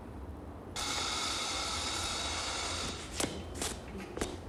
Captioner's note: machine hissing